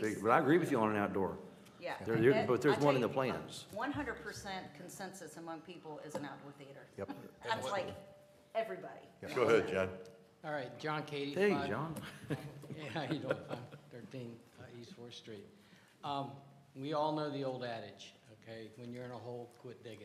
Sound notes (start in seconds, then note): 7.0 laughter